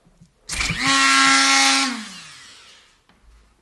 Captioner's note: Dremel buzzes, then stops